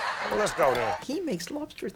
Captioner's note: audience laughs